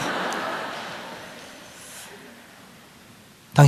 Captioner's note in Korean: 청중 웃음